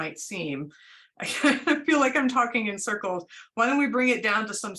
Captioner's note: laughter